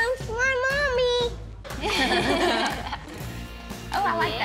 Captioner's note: both chuckling